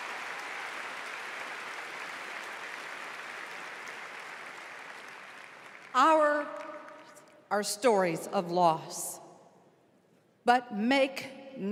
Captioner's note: applause